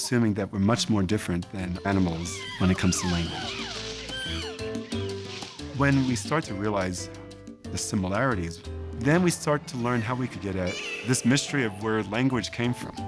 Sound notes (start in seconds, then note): 4.2 chimps screeching